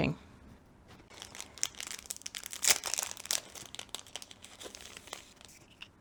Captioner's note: packaging crinkles